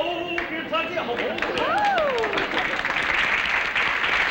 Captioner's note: singing; applause